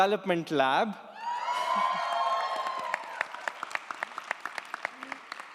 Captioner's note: audience applauds & cheers